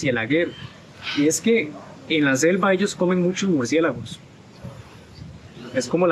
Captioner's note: in Spanish